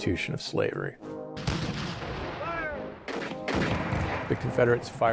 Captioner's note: cannon fires